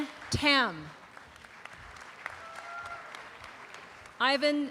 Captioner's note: audience applause